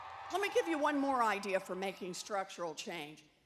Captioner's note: cheers and Applause